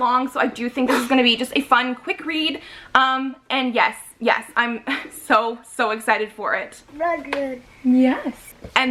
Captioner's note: babbles